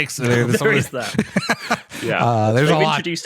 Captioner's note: laughter